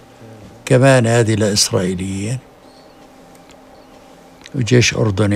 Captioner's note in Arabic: يتحدث بلغة أجنبية